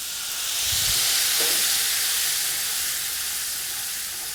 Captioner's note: sizzling sounds